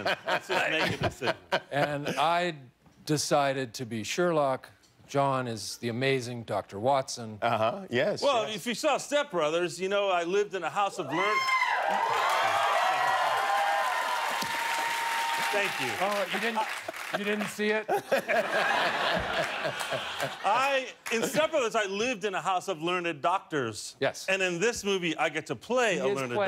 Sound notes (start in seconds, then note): 11.1 cheers and applause; 20.0 laughter